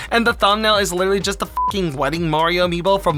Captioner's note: beep